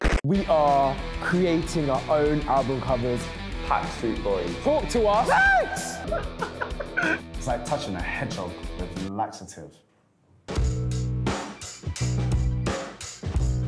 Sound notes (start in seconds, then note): 0.0 TV static; 5.1 yells; 10.6 upbeat music